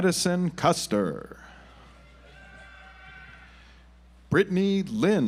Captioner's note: audience applauds